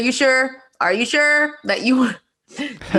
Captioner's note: laughing